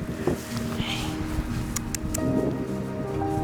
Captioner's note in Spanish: Clics de lengua